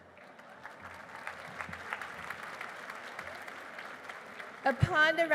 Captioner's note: applause